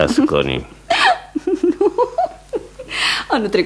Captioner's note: the woman laughs